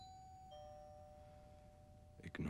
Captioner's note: doorbell rings